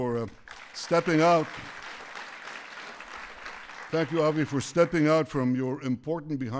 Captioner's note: applause